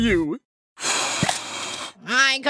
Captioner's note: blowing sounds